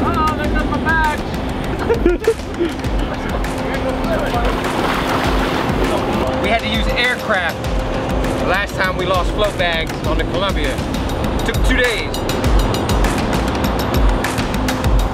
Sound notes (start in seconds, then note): 1.7 giggling; 4.4 water splashing; 12.5 upbeat music